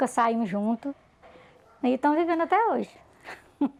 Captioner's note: laughs